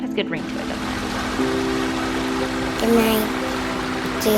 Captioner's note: water splashing